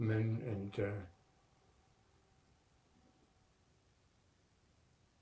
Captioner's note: pauses 10 seconds